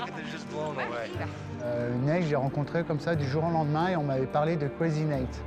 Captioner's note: speaking french